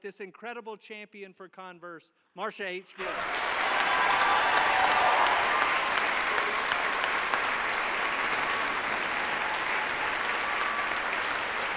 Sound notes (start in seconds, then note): 3.0 audience applauds; 3.0 audience cheers